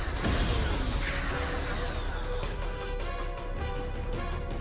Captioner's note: explosion